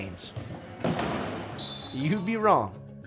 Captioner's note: whistle